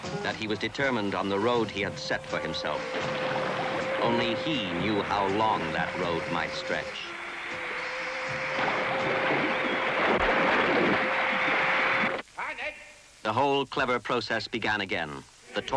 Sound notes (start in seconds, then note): 8.7 water splashing; 12.1 host speaking in foreign language